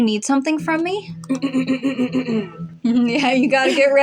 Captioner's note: clears Throat; chuckle